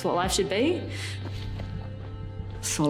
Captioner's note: footsteps crunching